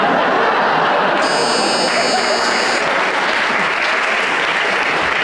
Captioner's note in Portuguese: campainha